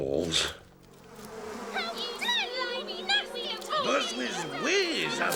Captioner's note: bees